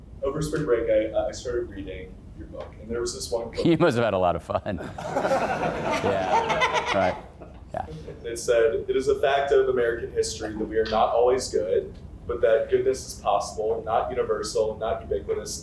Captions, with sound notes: - Over spring break, I started reading your book and there was this one-- - He must have had a lot of fun. (class laughs) Yeah, right, yeah. - It said, "It is a fact of American history that we are not always good, but that goodness is possible, not universal, not ubiquitous,